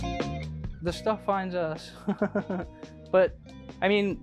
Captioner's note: laughs